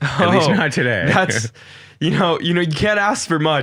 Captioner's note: both chuckling